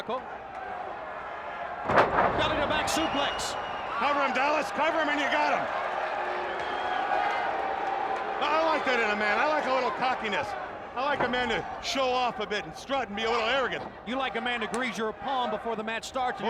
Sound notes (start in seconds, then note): 7.3 crowd chatter